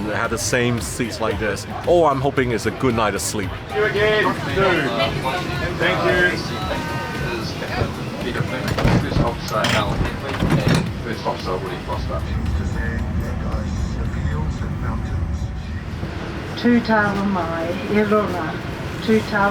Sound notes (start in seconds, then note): 7.5 aeroplane door closes loudly; 11.8 video plays quietly on screen; 16.3 Maori woman speaks